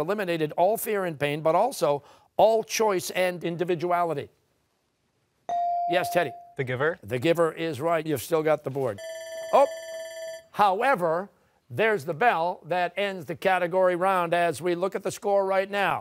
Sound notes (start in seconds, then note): 9.0 bell rings